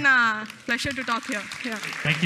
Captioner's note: applause